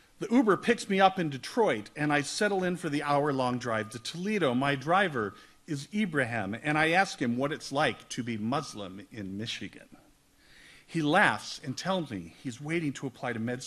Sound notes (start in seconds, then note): none